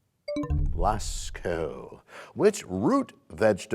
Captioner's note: bell chimes, time expires